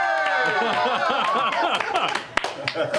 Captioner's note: cheering